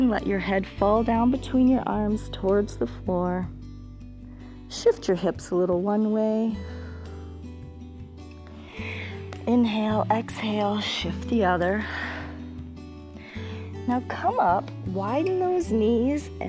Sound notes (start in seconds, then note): 8.4 inhales; 11.8 exhales